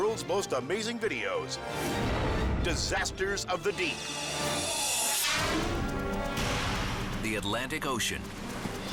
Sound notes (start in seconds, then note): 5.0 air whooshes; 5.9 tense music